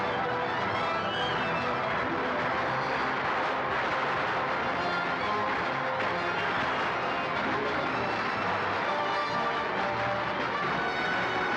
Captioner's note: dramatic music; gunfire